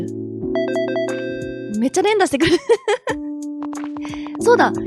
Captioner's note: intercom sound